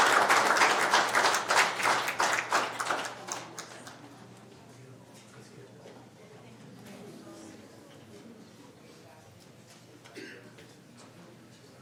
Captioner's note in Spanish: aplausos